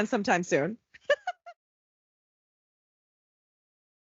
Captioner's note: laughing